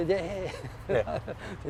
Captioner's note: laughs